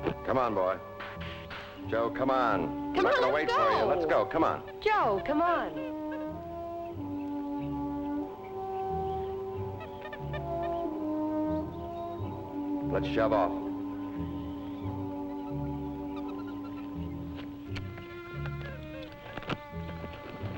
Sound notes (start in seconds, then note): 6.0 Joe chattering; 6.0 gentle music; 16.1 Joe chattering; 16.5 gentle music; 20.3 birds chirping; 20.3 gentle music